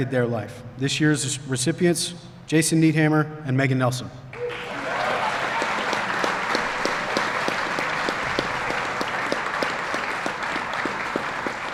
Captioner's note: applause